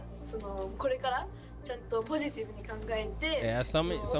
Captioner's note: speaking in foreign language